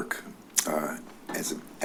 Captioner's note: clicks tongue